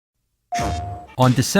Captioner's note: PlayStation Sound!